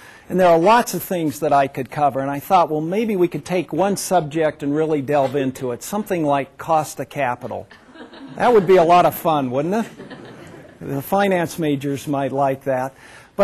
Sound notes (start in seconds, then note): 7.7 laughter